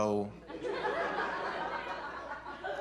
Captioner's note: laughter